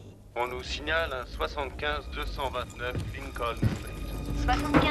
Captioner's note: police radio chatter